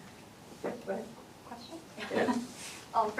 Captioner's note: laughter